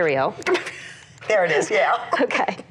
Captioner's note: laughs